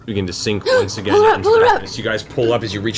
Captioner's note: gasps